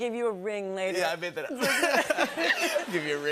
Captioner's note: laughter